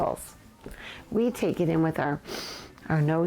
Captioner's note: inhales